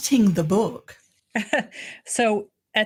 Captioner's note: laughing